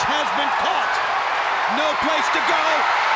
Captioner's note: crowd cheers